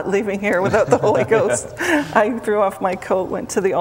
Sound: laughter

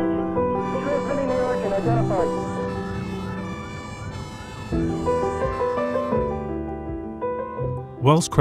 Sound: radio call

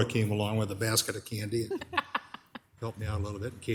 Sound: laughs

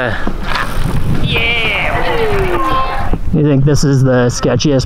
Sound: crowd

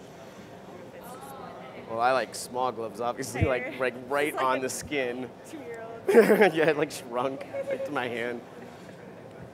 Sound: laughter

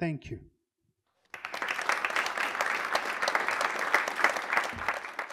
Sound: audience applauds

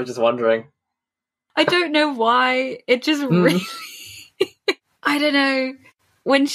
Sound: laughs

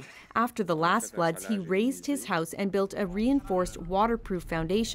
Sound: speaking French

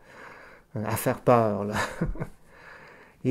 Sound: laughs

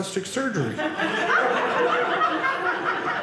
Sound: audience laughing

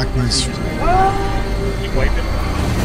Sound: screams

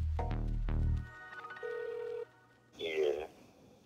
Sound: ringing

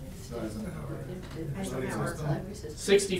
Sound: audience murmuring

